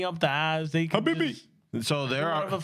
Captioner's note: speaking In Spanish